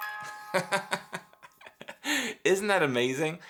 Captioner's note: laughing